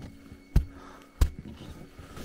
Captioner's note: thud